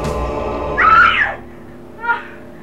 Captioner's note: scream